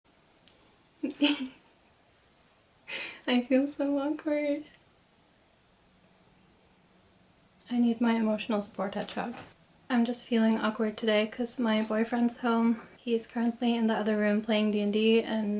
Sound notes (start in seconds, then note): 1.0 laughs nervously